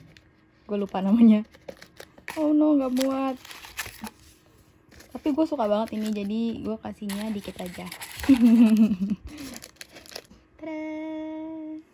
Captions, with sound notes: i forgot the name oh no it doesn't fit but i like this candy so much, i'm gonna give away only some of them *evil laugh* tada!